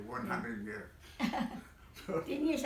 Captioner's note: laughter